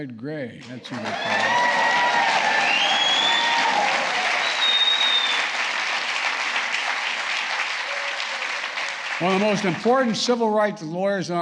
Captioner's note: applause